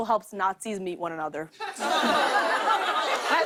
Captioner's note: laughter